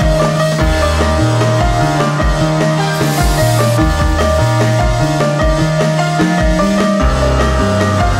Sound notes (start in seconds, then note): 2.8 welding; 2.8 grinding